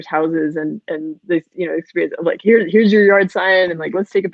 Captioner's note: voice muffled